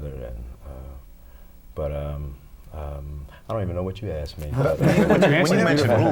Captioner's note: laughter